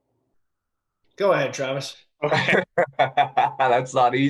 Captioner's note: laughter